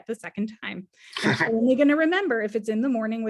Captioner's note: laughing